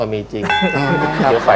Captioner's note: laughter